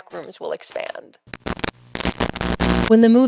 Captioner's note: TV static